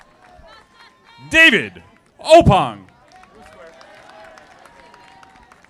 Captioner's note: audience applauding